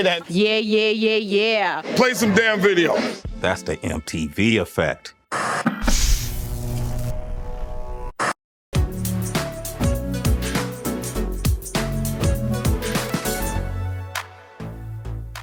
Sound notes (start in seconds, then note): 5.3 electricity buzzing